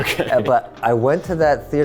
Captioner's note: laughing